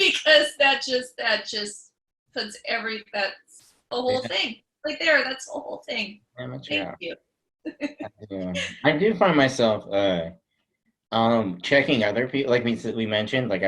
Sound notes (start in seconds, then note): 7.8 chuckles